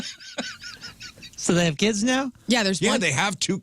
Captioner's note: laughing